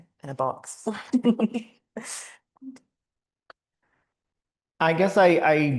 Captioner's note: chuckling